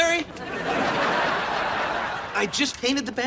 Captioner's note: audience laughter